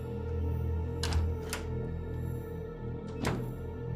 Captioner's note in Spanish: sonido al cerrar la puerta